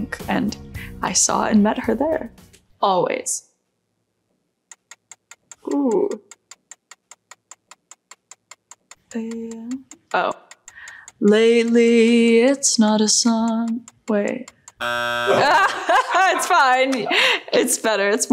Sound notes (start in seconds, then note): 6.9 timer ticking; 15.1 timer buzzes